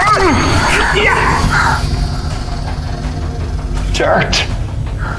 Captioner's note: fighters grunting; energy whirring